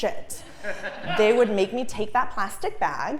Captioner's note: laugh